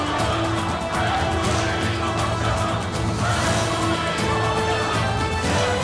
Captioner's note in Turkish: Hep bir ağızdan